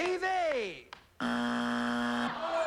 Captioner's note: buzzer